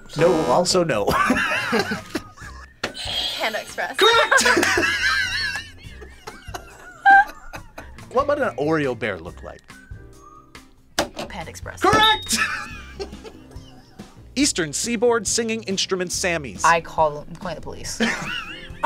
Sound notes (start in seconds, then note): 1.1 laughs; 4.0 buzzer rings; 6.5 both laugh; 12.2 laughs; 18.0 React laughs